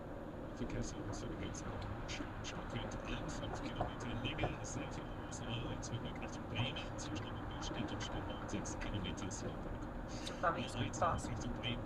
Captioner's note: traffic information in German